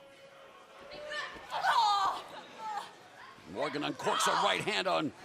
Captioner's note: crowd chatter